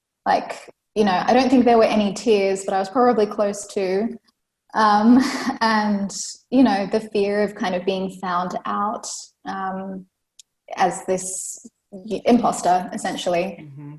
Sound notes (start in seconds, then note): 4.9 laughs